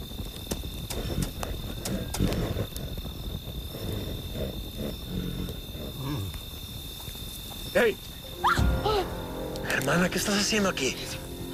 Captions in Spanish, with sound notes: - ¡Hey! [Grito] - Hermana, ¿qué estás haciendo aquí?